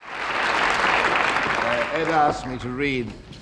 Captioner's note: audience applauding